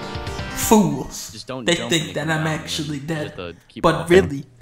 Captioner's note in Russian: внутренний монолог